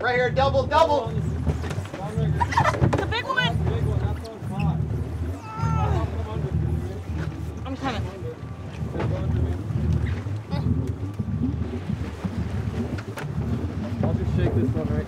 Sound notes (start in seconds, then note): 4.6 background chatter; 7.5 groaning